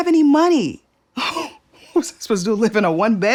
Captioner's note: laughs